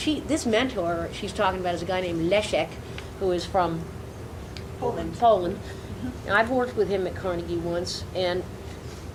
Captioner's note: none